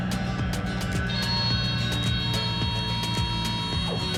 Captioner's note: beeping